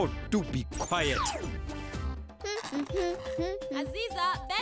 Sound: beeping; humming

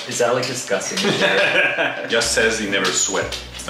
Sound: laughs

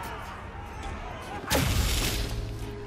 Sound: creature bangs into shield

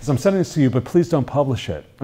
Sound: none

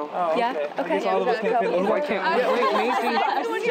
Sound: chattering

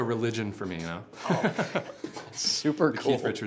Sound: laughs

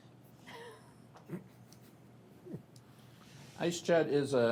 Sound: laughs

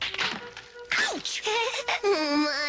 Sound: giggles

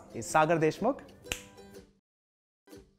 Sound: finger snaps

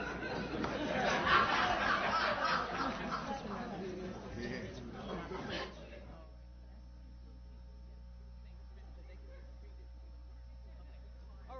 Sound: laughter

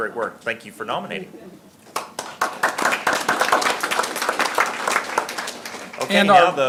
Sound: audience clapping

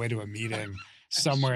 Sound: laughs

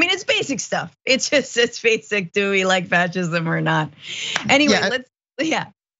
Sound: laugh

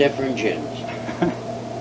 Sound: laughs

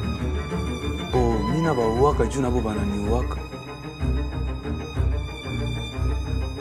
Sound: man speaking foreign language

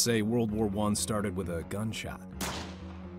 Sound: gunshot

